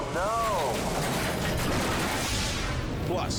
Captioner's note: truck crashing